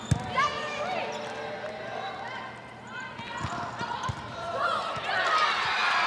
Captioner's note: ball thumping; players shouting indistinctly; audience cheering